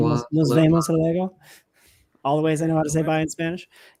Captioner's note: speaking spanish